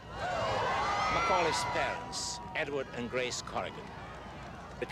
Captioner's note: crowd screams